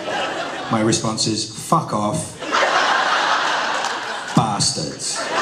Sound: laughter

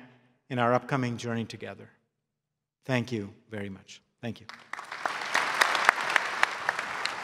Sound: applause

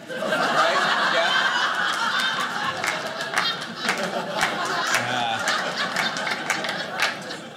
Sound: audience laughing

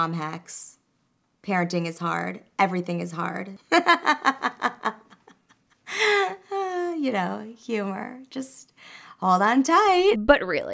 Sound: laughter

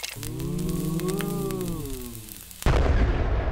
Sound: sighing

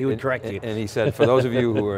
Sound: laughs

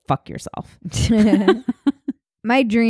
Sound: laughing

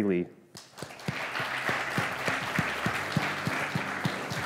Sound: audience clapping

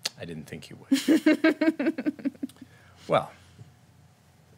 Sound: giggling

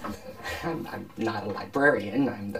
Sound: laughter

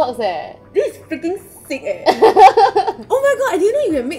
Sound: laughs

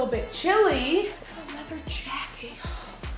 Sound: gasps

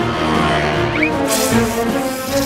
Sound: hissing; rattling

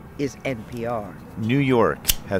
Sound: lighter clicking

